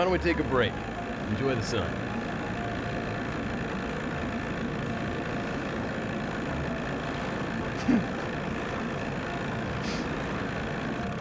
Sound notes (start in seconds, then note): 2.3 engine purring; 7.9 giggles